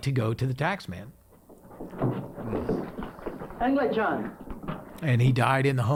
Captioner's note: footsteps plodding